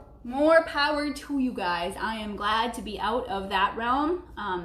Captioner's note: none